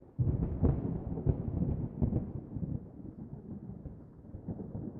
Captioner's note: thunder